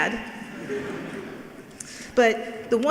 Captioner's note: laughing